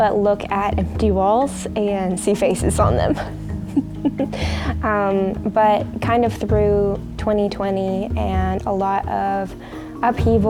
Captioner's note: laughs